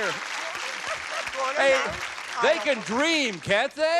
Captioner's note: applause